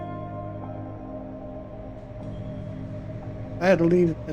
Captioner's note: distant engines rumbling